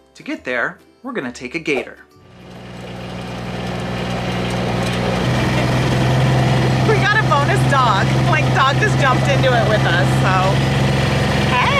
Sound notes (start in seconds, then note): 3.0 engine running